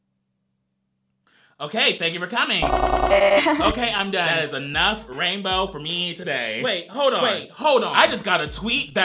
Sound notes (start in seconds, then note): 3.0 girl laughing